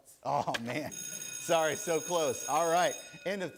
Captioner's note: bell rings